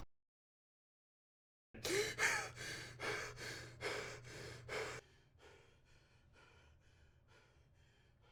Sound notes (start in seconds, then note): 1.8 gasps